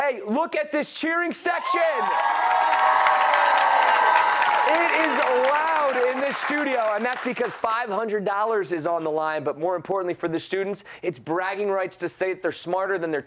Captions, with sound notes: THE LOOK AT THIS CHEERING SECTION. [CHEERS AND APPLAUSE]. > IT IS LOUD IN THIS STUDIO. THAT'S BECAUSE $500 IS ON THE LINE. MORE IMPORTANTLY FOR THE STUDENTS IT'S BRAGGING RIGHTS TO STATE THEY'RE SMARTER THAN THEIR